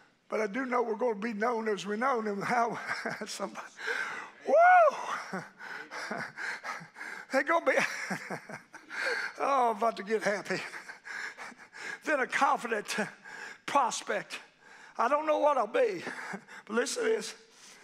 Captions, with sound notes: but I do know we're gonna be known as we're known, and how, somebody, woo. It gonna be, (laughing) I'm about to get happy. Within a confident prospect. I don't know what I'll be, but listen to this.